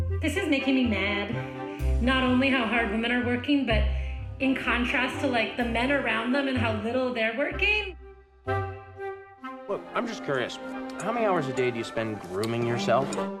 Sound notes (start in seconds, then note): none